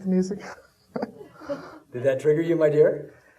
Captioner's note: laughing